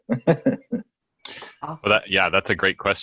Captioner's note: laughs